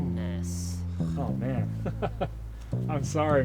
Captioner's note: chuckles